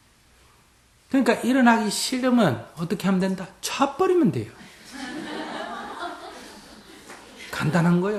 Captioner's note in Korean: 청중 웃음